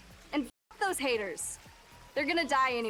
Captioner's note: distant sirens